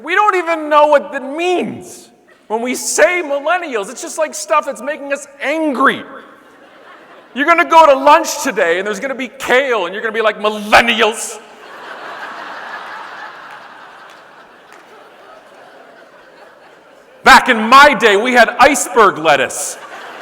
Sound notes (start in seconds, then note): 6.3 audience laughing; 11.4 audience laughing